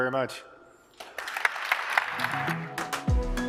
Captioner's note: applause